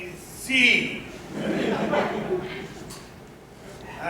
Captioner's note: laughter